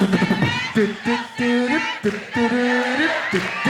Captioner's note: sounds out a tune